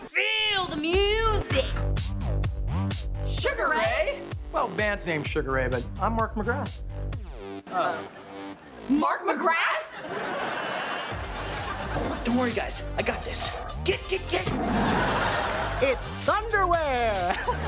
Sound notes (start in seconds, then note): 9.8 laughing; 14.6 tiger roaring